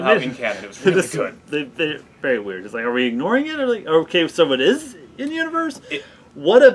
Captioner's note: stuttering